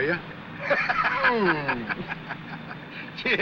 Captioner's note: laughs